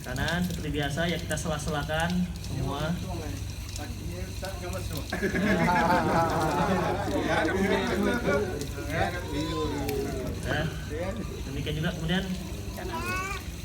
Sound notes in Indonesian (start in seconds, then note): 5.0 Jama'ah tertawa